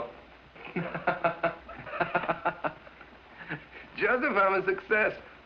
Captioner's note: laughing